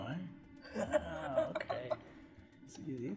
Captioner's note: laughing